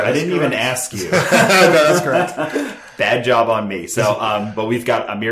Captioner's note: laughing